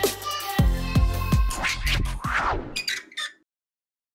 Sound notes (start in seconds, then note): 1.5 swoosh and squeak